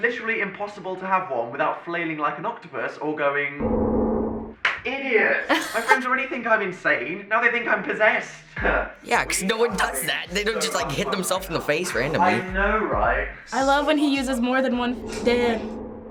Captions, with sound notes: It's literally impossible to have one without flaming like an octopus or going-- -IDIOT! -(laughs) My friends already think I'm insane. Now they think I'm possessed! Yeah, cause no one does that! They don't just hit themselves in the face randomly. I know, right? I love it when he uses more than one Dan.